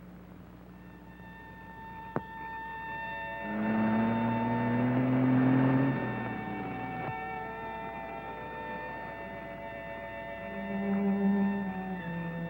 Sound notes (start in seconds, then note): 0.8 soft music; 3.2 car engine revving